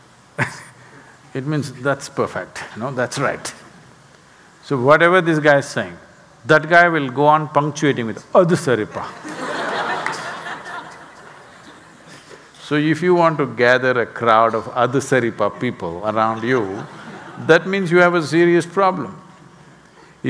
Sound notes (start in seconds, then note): 9.1 laughter; 16.3 laughter